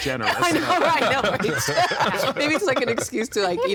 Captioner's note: laughing